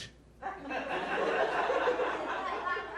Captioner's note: laughter